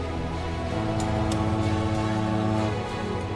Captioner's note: boat horn honking; deep rhythmic music continues